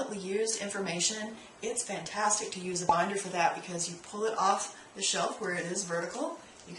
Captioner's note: pop